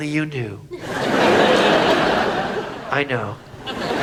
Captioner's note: audience laughs